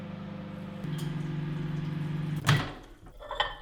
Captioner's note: cup clattering as microwave door closes; microwave whirring; microwave opening